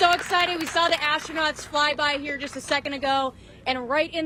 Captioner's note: applause